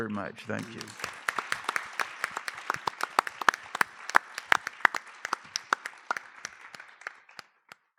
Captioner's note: applause